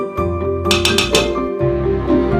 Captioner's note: ting-Ti, Ting-Ting!